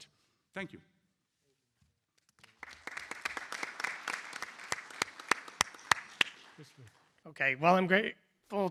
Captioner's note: applause